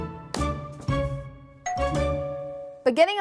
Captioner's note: doorbell ringing